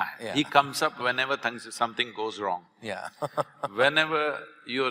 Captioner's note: Karan Johar laughs